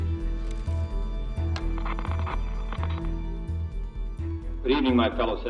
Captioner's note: static crackling